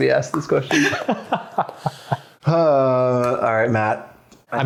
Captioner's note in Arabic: يضحك